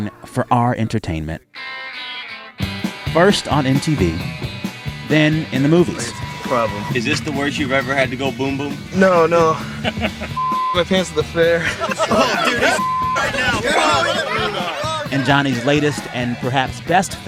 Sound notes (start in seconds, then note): 11.5 laughter